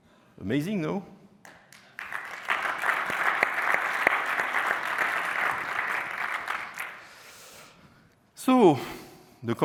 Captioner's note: applause